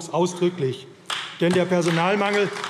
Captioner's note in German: Beifall AfD